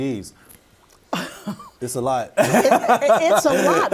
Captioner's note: laughing